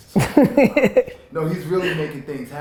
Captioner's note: Gary laughs